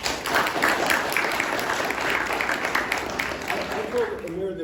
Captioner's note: applause